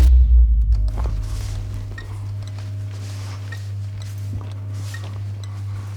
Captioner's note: electrical buzzing